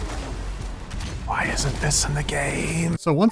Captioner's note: whispering